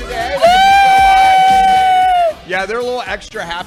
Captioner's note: cheering